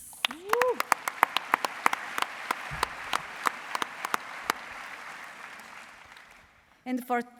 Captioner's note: applause